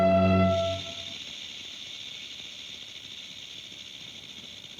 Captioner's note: snake rattles